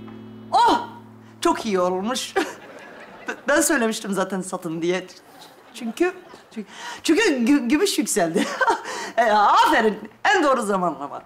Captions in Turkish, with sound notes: Oh... Çok iyi olmuş. (Gülme efekti) Ben söylemiştim zaten satın diye. Çünkü... ...çünkü gümüş yükseldi. Ha ha... E aferin. En doğru zamanlama.